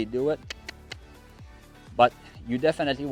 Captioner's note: clicks tongue